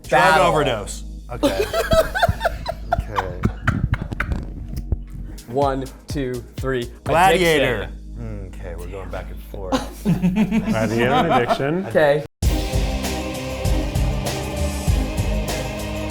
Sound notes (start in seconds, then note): 1.4 laughing; 2.8 pensive instrumental music; 9.7 laughing